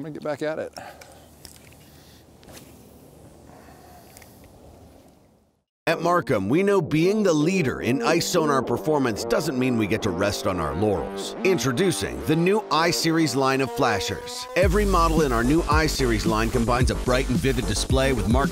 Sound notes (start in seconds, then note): 6.2 voiceover